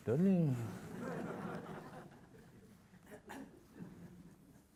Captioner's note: audience laughing